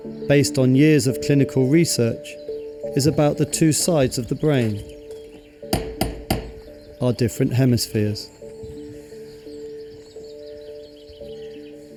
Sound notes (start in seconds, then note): 5.6 knocks